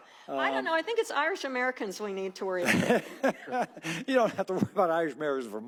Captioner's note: laughter